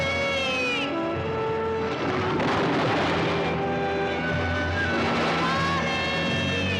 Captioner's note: sentimental music; waves crashing